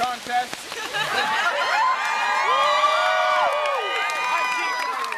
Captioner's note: crowd cheering